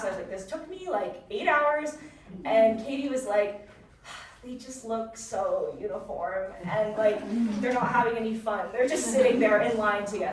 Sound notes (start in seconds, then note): 4.1 sighs